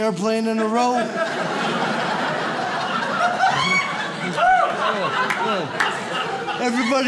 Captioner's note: audience laughs